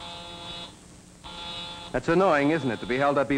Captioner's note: phone buzzes